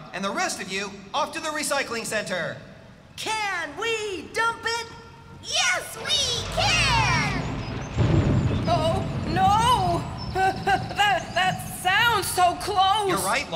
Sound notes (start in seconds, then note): 7.6 thunderclap!